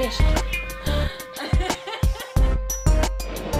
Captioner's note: laughing